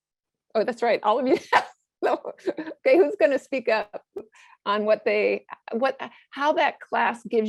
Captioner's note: laugh